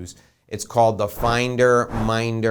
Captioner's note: air whooshing